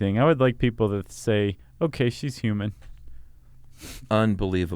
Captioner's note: scoffs